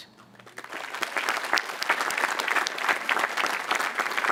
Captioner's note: audience applauding